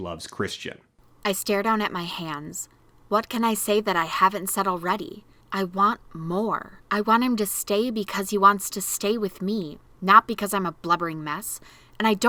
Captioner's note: reading aloud from the novel